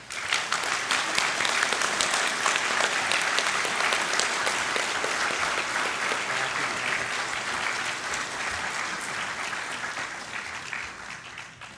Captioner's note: applause